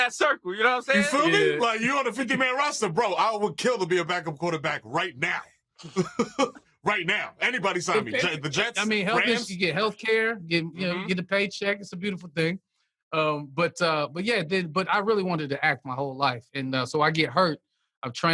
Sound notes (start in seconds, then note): 5.8 laughter